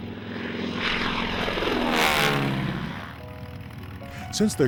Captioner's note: plane engine noises